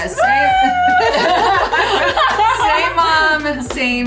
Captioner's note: all laughing